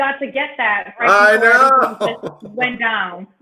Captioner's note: laughs